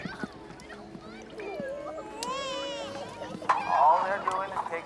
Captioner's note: children crying and protesting